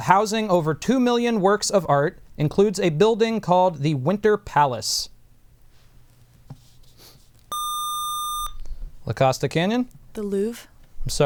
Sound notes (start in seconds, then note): 7.5 buzzer